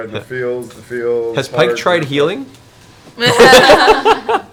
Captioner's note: laughs